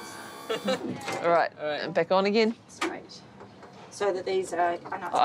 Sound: laughs

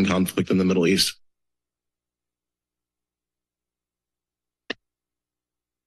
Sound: silence

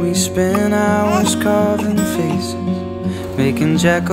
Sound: cooing

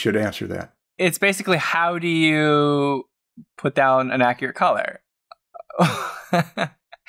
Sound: laughter

